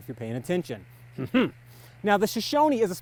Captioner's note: clears throat